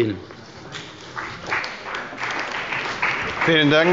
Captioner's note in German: Beifall bei Abgeordneten der CDU und bei dem BÜNDNIS 90/DIE GRÜNEN